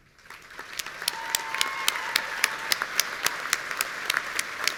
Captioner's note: audience cheering